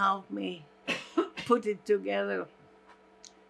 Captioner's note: coughing